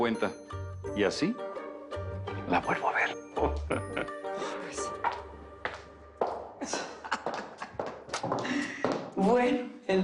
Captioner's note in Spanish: Ríe; Riendo